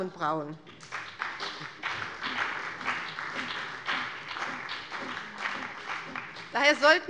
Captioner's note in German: Beifall bei dem BÜNDNIS 90/DIE GRÜNEN und der CDU